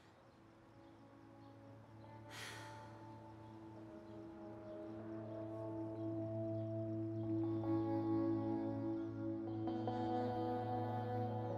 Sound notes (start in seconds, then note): 2.1 gentle music; 2.3 Beverly exhales deeply